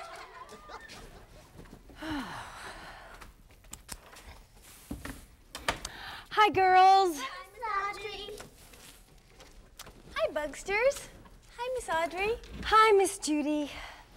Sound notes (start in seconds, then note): 1.9 sighing